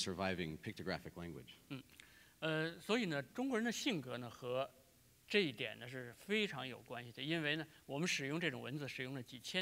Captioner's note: speaking in Chinese; speaking in Chinese